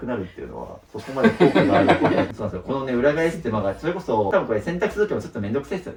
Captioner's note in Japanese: 笑い